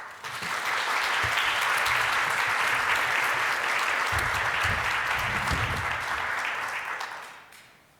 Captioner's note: applause